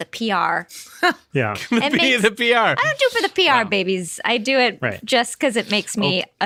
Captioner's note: laughter